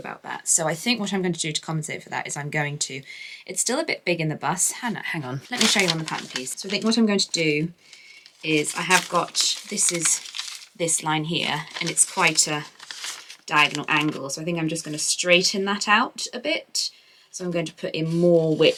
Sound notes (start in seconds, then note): 5.4 paper rustles